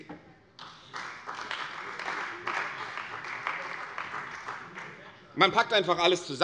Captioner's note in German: Beifall bei der CDU und dem BÜNDNIS 90/DIE GRÜNEN